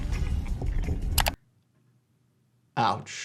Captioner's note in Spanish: clics del ratón